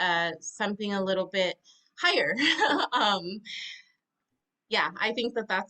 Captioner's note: laughs